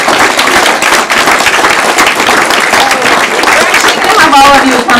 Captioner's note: applause